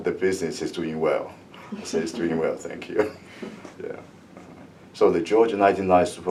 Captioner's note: laughs